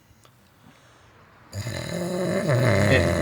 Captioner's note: snoring